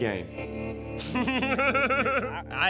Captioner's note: laughter